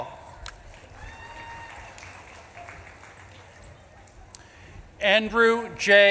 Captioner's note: audience claps and cheers